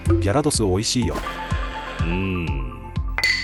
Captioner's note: cry